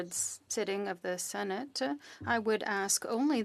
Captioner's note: speaking French